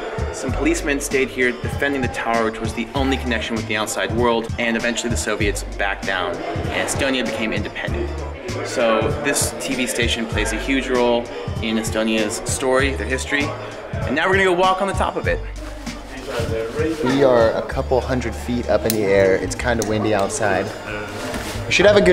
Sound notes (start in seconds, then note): none